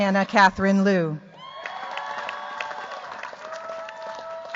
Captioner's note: cheers, applause